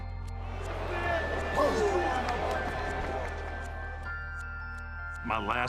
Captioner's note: crowd murmuring; Undertaker grunts